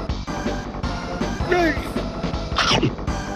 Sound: grunt

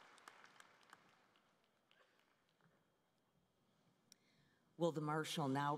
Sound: cheering and Applause

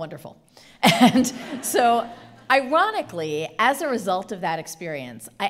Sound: chuckling

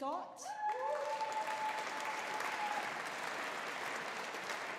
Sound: audience applauding

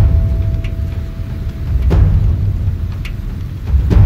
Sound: wind

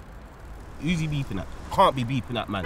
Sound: car horn

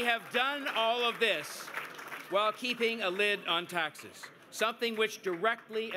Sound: cheers and Applause

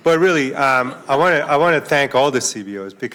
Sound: laughter

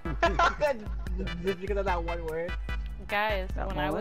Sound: laughing

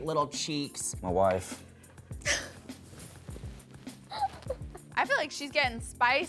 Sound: Bella laughs

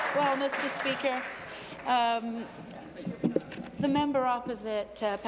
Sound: applause

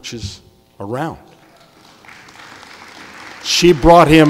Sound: audience applauding

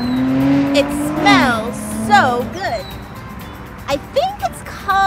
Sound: motor sound in background

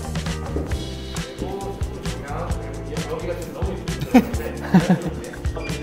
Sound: laughing

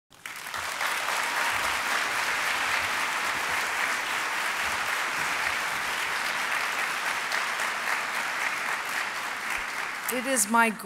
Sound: applause

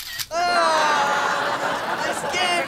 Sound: groaning

